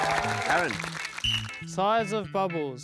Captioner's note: blows whistle